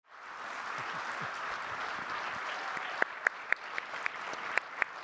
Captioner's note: audience applauding